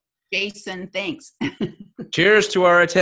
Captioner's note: laughs